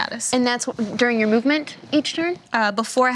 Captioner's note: none